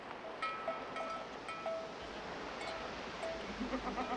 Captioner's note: ringing and bleating